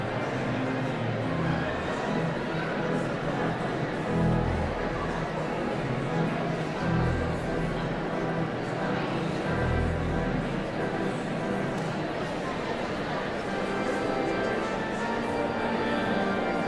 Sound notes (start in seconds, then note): 9.5 audience chatter continues; 9.5 pipe organ music continues